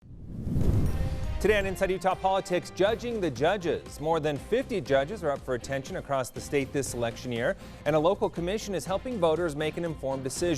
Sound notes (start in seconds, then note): 0.0 air whooshing; 1.2 upbeat music